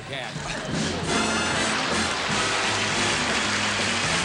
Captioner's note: applause